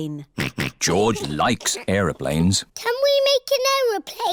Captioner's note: snorts